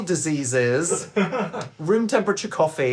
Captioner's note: laughing